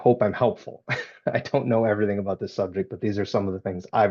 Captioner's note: laughing